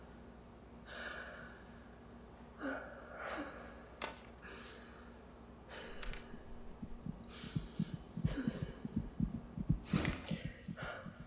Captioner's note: echoed heavy breathing, accelerating heartbeat